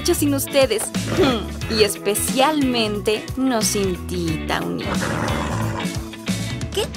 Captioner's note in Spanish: Tawny relincha entre dientes